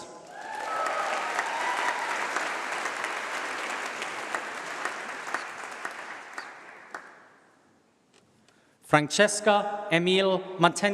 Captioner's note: applause